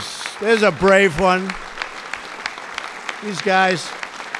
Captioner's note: applause